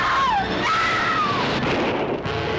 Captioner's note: gunshot; dramatic note plays